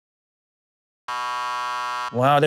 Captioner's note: buzzer